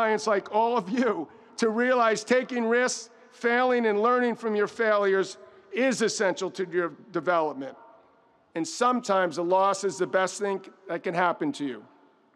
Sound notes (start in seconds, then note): none